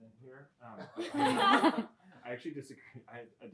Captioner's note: laughter